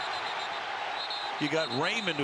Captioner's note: whistle